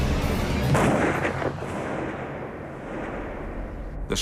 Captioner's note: gunshot